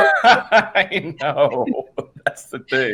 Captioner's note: laughing